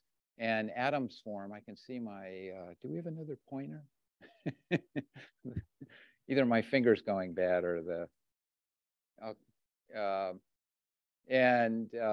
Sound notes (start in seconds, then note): 4.3 chuckles